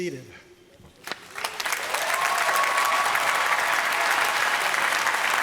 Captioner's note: applause